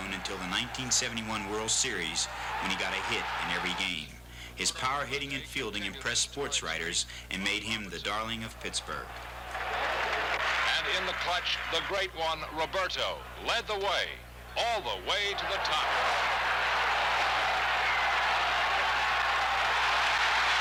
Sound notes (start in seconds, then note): 9.0 crowd shouting; 14.4 crowd cheering